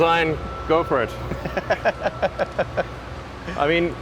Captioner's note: laughs